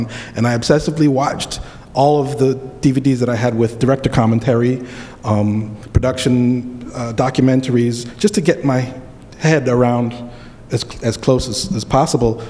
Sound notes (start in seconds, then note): none